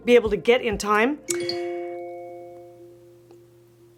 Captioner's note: chimes